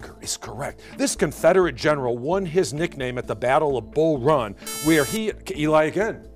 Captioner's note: buzzer